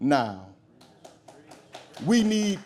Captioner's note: audience claps